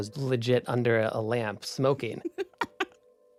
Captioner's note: laughs